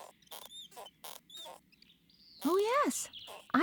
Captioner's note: squeak, Squeak, Squeak